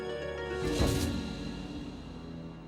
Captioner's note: thud